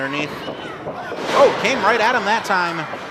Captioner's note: thud